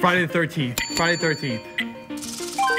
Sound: bell dings

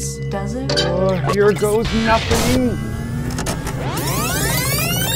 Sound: electronics powering up; lasers blasting; machines beeping

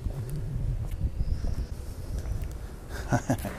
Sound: laughs

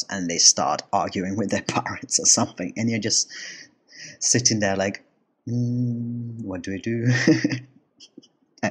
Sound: chuckle

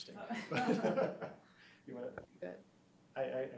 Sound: everyone laughing

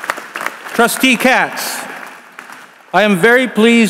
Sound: applause

